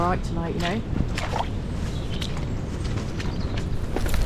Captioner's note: splosh splosh splosh